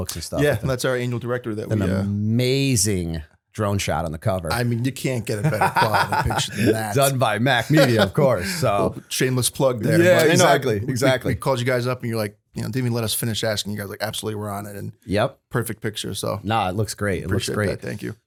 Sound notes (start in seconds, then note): 6.9 laughter